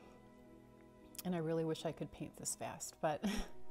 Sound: chuckles

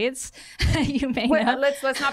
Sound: laughter

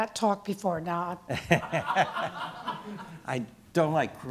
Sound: laughing

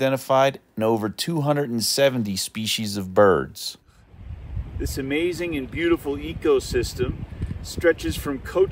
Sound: water rushing

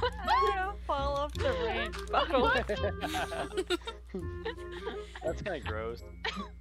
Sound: all laughing

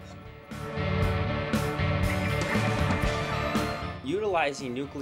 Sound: sound Effects

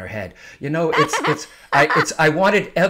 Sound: laughing

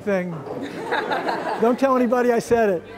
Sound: laughter

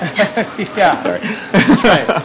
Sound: laughing

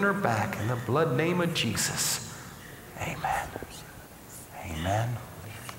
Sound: whispering

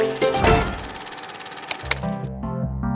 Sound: tv shutting off

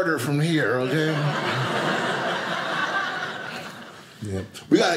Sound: audience laughing

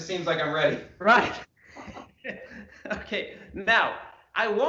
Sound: laughs

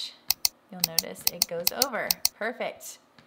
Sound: clicking

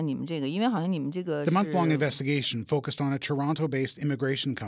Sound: speaking chinese

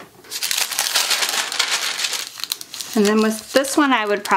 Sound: paper rustles

